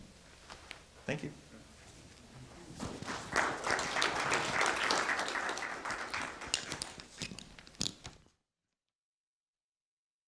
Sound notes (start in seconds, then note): 2.9 applause